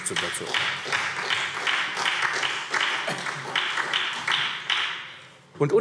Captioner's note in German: Beifall SPD